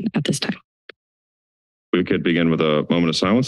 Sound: silence

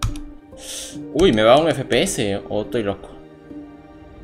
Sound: sighs

